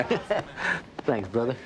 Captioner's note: both chuckling